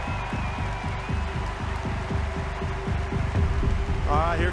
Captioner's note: crowd cheering